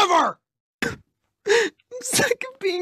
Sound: cries

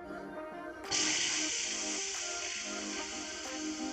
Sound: air releases

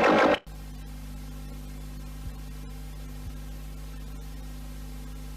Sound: VHS static

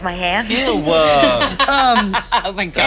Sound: laughing

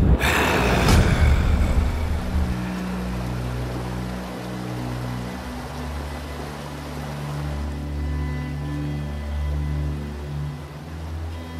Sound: water Sounds

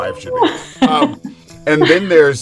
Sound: laughing

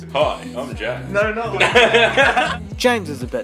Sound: laughing

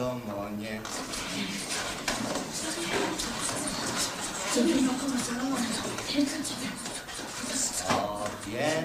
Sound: All whispering bits of text "What do we know about King Solomon"

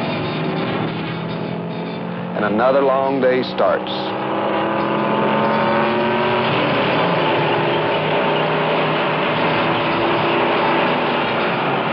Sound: loud engines

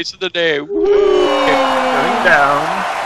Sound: crowd screams in terror

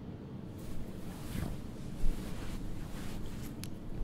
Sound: shifting around in bed

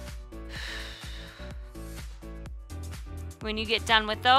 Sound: exhales

